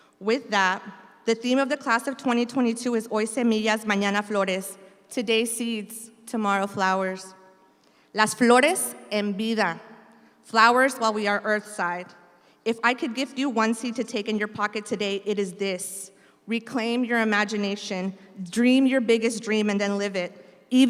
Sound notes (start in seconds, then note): 3.0 speaks in Spanish; 8.3 speaks in Spanish